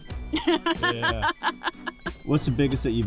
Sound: laughter

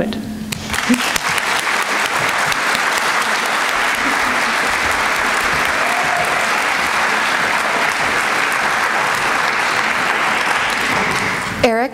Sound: applause

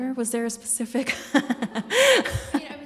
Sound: laughs

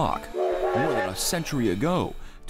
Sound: train whistle blows

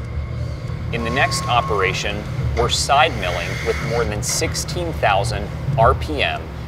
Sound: machining noises

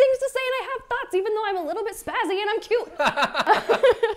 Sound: laughs

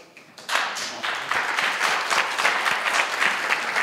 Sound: applause

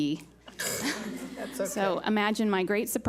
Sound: laughs

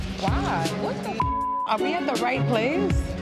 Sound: beep

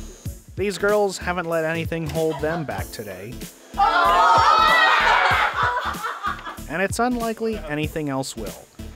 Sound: laughter

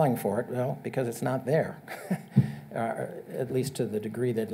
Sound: chuckles

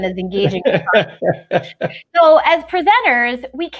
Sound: laughs

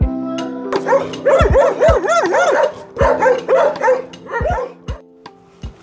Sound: woof

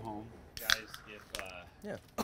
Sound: can popping; can fizzling

